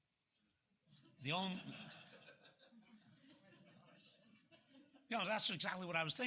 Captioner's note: laughter